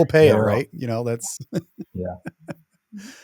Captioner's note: laughs